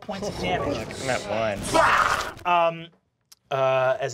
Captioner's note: snarling